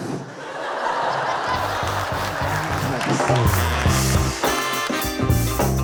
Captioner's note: audience laughing; audience cheering